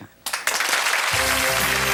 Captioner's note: audience applauds